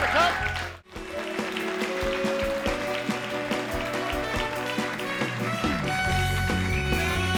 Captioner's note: audience applauding; upbeat music